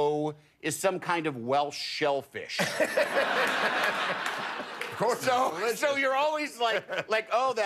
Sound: laughter

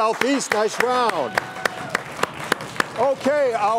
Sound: audience clapping and cheering

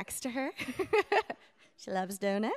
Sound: laughs

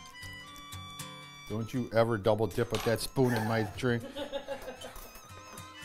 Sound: laughing

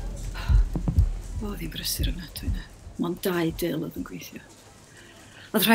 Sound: tills scanning. customers talking

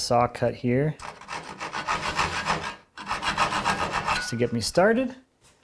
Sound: saw rattles

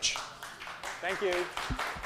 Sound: audience applauding

